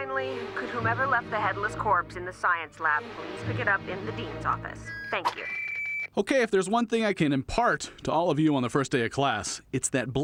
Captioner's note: scream